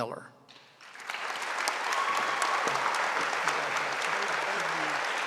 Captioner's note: audience applauding